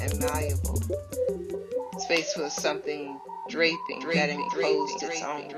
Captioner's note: echoes